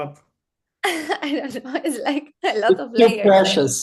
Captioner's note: laughs